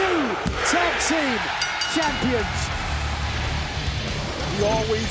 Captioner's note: bell ringing